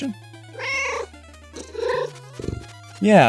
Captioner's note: meow